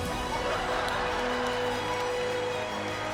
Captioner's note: laughter